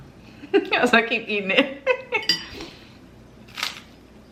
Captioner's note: laughs